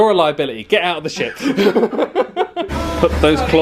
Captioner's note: laughs